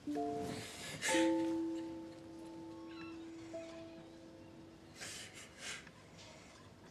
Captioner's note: gentle music; Benji sobbing